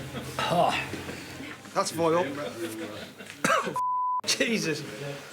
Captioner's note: constructor exclaiming; laughing; coughing; beeping sound